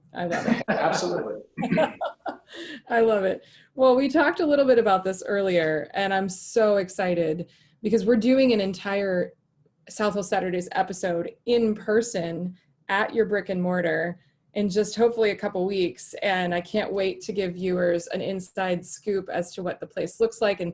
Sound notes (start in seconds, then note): 1.5 laughing; 1.8 clears throat